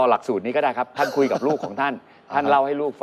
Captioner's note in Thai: หัวเราะ